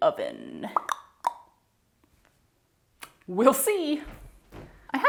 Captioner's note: mouth percussion